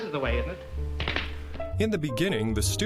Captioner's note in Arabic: صفعة اليد